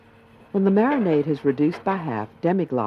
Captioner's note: voiceover